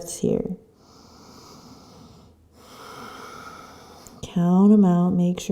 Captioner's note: deep breathing